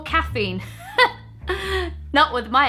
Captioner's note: laughs